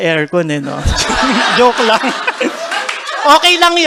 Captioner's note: laughter